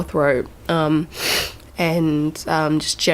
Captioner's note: sniff